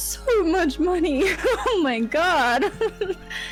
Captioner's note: laughs